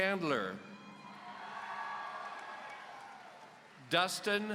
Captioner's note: audience cheering